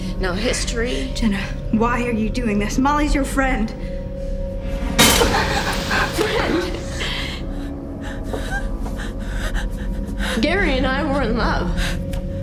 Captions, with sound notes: No history. - Jenna, why are you doing this? Molly's your friend. (clanking) - Friend? (gasping) Gary and I were in love